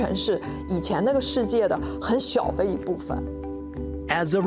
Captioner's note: speaking Chinese